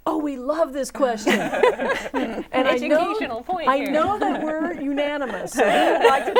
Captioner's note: laughing